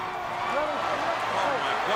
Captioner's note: crowd cheering